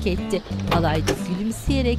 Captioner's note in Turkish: Kapı açılma sesi